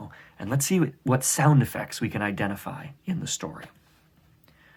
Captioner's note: none